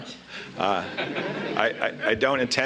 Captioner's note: laughter